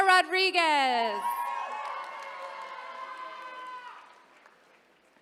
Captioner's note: attendees cheering